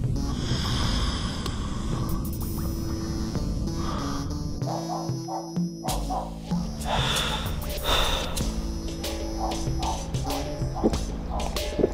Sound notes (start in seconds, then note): 5.9 dog's bark